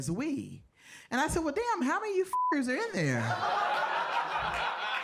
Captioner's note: beep; audience laughing